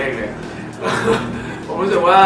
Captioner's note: laughs